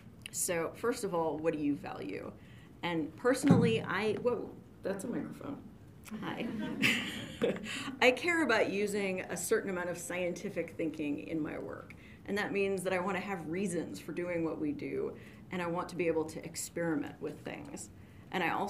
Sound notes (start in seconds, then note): 4.3 taps chest; 6.5 audience laughs